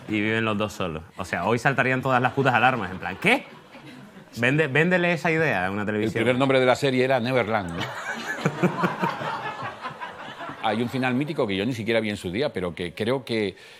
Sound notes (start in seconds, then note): 9.5 laughter